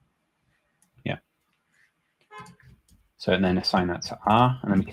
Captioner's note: horn blares